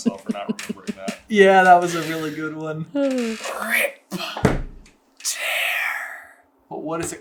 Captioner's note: basilisk voice